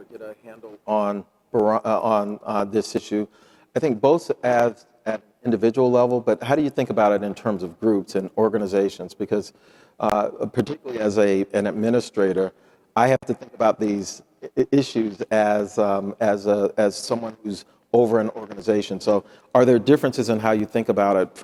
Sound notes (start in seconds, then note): none